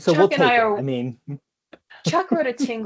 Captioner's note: laughs